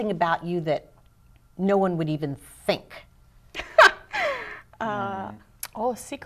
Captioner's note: laughter